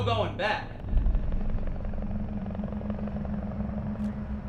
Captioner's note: helicopter sound